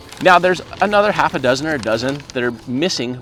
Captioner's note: none